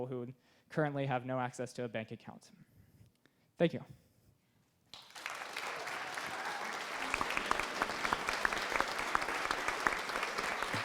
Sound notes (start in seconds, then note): 4.9 applause